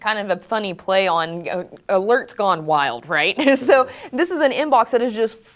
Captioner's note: laughs